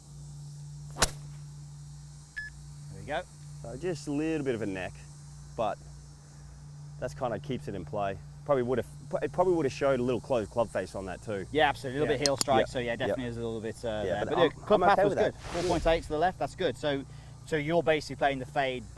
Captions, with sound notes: (crisp golf drive) (beep) - There we go. - Just a little bit of a neck, but this kind of keeps it in play. It probably would have shown a little closed club face on that too. - Yeah, so a little bit heel strike, so definitely is a little bit there. - I'm okay with that. - Club path was good. 4.8 to the left, that's good. So, you're basically playing the fade